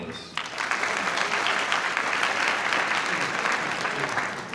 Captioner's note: audience applauding